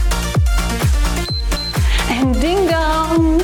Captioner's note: timer beeps